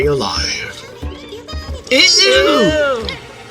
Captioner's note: tick squeaks